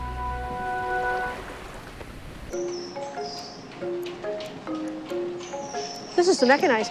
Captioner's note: sounds of waves; upbeat music; canning line clanking and humming